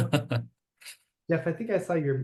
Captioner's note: laughter